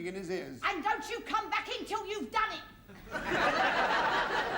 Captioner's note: shouts; laughter